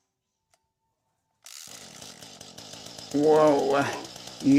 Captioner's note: engine cranking sounds; engine starting sounds